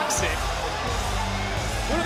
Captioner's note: crowd cheers